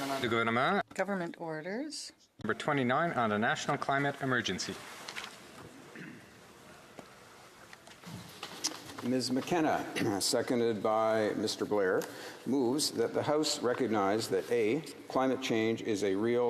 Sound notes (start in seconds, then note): 2.8 speaking French